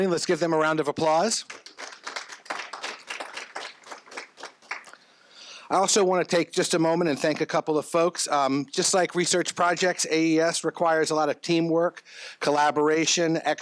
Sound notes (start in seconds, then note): 1.4 crowd applauses